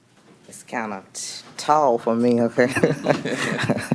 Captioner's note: laughter